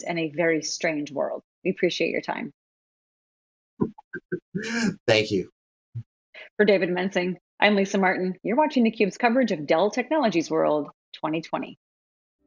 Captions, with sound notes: in a very strange world. We appreciate your time. (chuckles) >> Thank you >> For David Mensing, I'm Lisa Martin. You're watching the cubes coverage with Dell technologies world 2020.